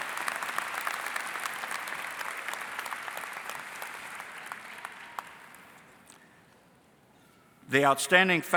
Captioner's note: applause